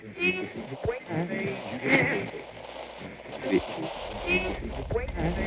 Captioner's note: tuning radio, static